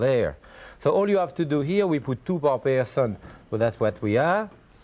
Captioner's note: mutters